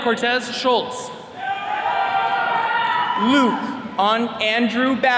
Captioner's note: attendees cheering